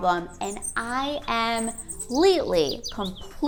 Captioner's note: birds chirping?